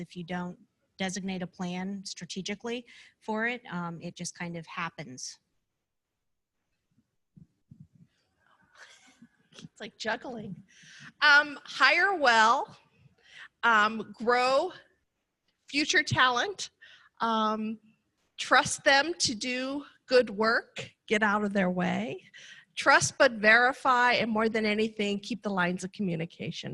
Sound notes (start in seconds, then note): 6.8 laughter